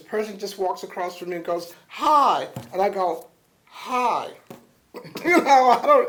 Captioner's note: laughter